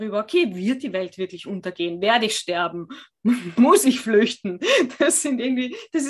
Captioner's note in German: lachen